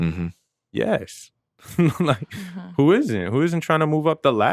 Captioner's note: chuckles